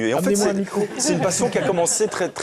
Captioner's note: laughter